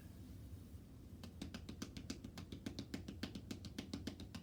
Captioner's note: hands tapping